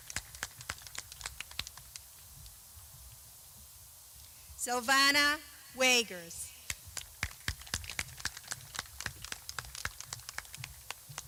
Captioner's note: clapping